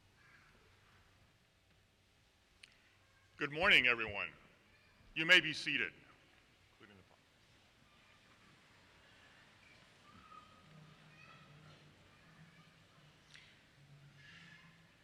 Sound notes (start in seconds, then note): none